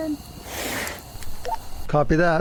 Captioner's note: swooshing; radio beeping